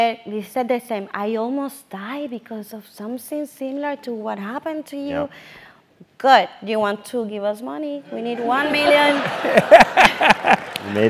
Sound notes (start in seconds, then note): 8.2 laugh